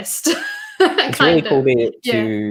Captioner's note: laughs